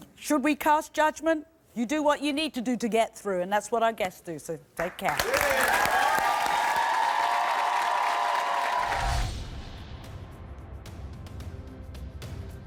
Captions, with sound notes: Should we cast judgment? You do what you need to do to get through and that's what our guests do, so take care. (audience cheering) (deep rhythmic music)